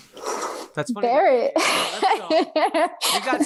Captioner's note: laughs